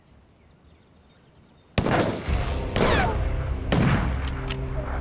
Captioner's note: gunfire